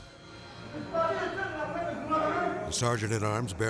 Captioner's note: gunman speaking French